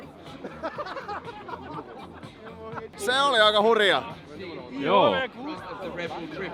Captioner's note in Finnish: naurua